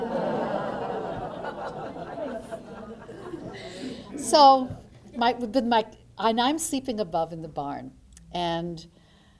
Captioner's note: laughter